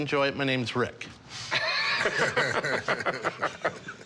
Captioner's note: both laugh